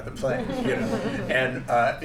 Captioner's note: laughter